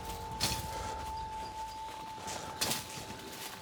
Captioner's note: blade hitting leaves